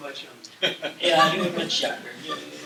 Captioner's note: laughter